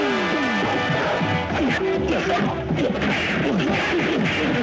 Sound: fighting Sound

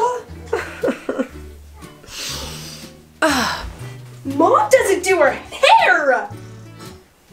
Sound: cries

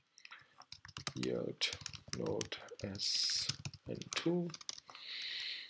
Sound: typing

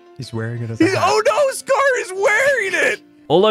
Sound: snickers

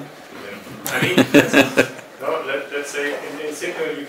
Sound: laughing

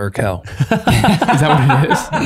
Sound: all laughing

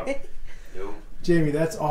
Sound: laughs

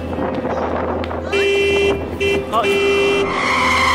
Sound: car honk

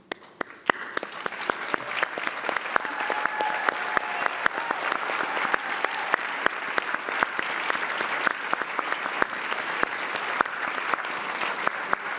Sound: applause

